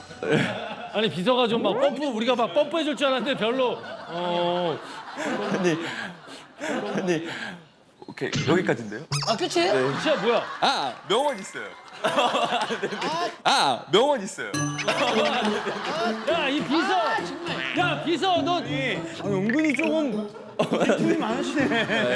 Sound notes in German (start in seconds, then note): 11.5 Kichern; 14.7 Lachen